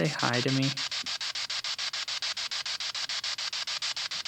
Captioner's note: spirit box sound